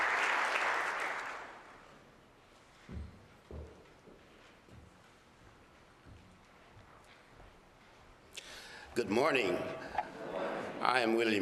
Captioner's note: applause